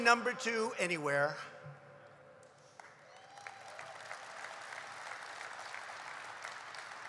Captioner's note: applause